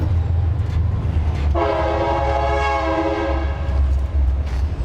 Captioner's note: train horn honking